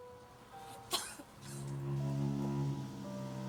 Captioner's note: coughing